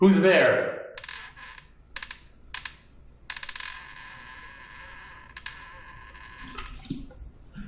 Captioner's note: door creaking